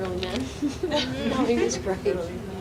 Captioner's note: laughing